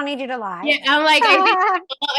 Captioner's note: laughs